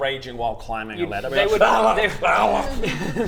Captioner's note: arggllarggghllhrhghh